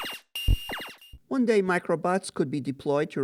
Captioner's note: sounds of lasers shooting